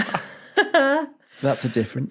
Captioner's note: blurts laugh